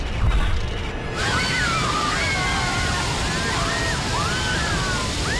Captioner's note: screaming